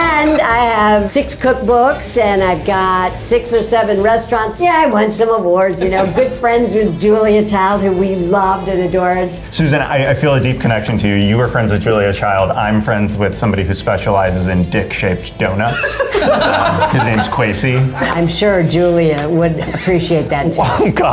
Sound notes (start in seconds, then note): 15.6 all laugh